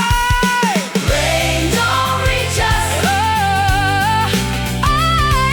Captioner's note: Crowd